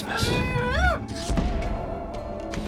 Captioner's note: muffled screaming